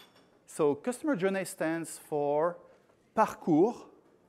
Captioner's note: speaking in french